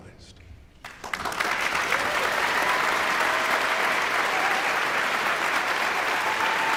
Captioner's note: guests cheering and applauding